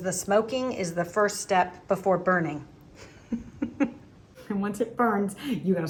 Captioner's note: chuckles